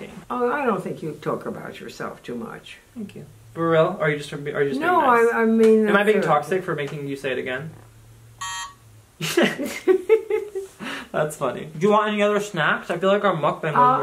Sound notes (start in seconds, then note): 8.4 buzzer buzzes; 9.2 both laughing